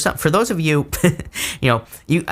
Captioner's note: laughs